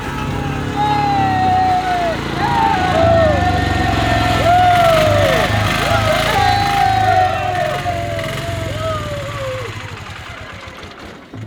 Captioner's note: screaming